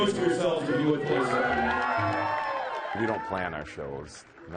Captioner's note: cheering